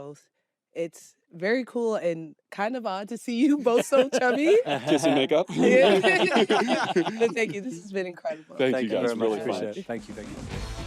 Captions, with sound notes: It's very cool and kind of odd to see you both so chummy. -(ALL LAUGHING) -Kiss and make up. Thank you. This has been incredible. -Thank you, guys. -Really appreciate it. Thank you.